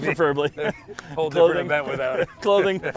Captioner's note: laughs